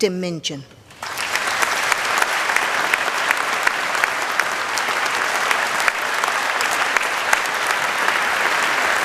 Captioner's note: applause